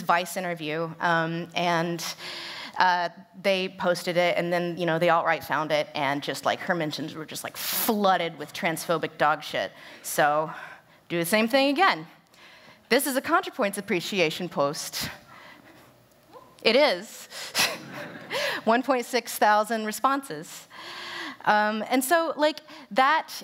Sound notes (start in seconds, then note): 17.7 laughter